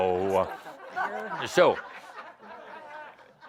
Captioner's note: laughter